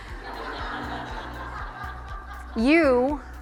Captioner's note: audience laughs